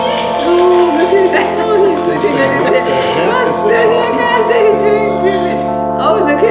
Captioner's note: laughter